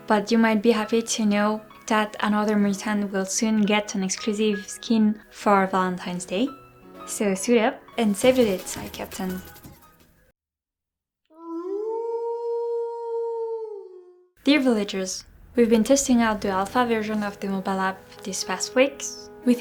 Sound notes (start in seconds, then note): 11.4 wolf howling